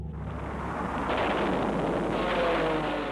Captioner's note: explosions